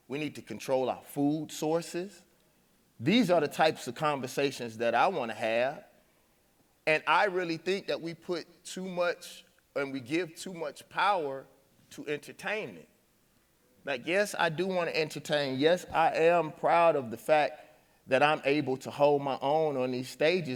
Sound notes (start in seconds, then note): none